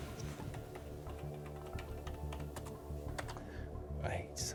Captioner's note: keys clicking; dramatic music